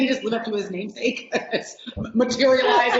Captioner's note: laughing